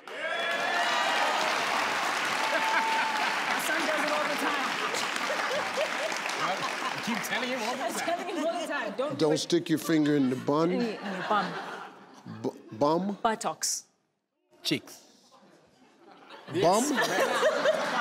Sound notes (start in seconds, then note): 0.0 crowd cheering; 5.7 crowd laughing